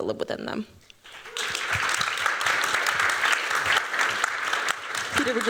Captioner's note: applause